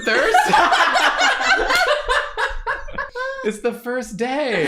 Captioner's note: laughter